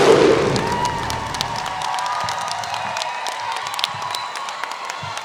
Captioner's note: audience applauding